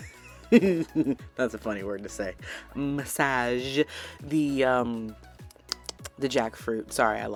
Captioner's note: chuckles; smacks lips